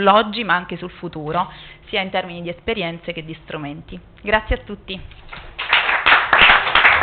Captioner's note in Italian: Applauso